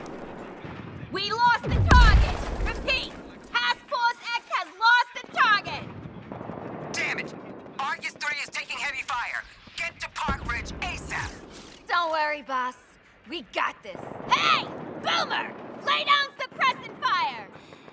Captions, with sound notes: We lost the target. Repeat. Task Force X has lost the target. [Voice on radio] Dammit! Argus 3 is taking heavy fire. Get to Park Ridge ASAP! Don't worry boss. We got this. Hey! Boomer! Lay down suppressing fire!